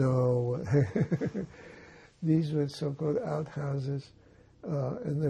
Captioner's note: laughing